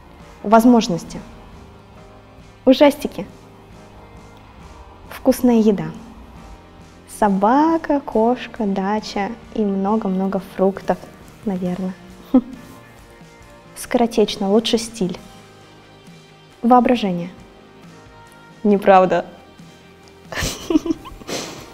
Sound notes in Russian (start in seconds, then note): 12.6 усмешка; 20.3 смех